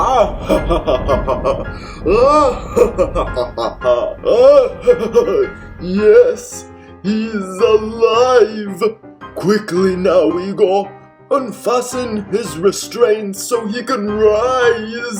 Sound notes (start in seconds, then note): 3.1 maniacal laughter